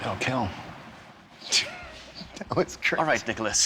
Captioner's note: both laughing